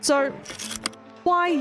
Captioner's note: projector slide click